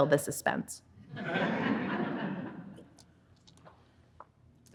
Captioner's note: audience laughing